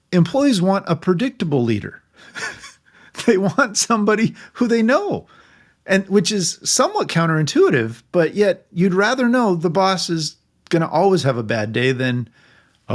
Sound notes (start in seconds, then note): 2.2 laughing